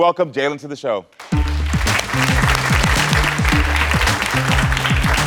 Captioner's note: audience clapping